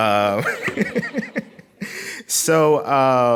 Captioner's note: laughing